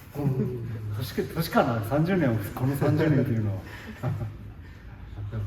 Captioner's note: laughs